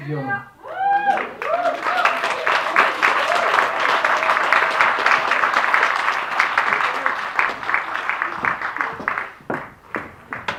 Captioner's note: applause